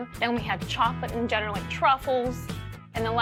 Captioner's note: none